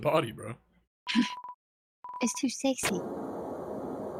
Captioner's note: laughs